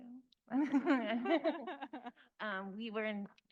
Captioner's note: laughing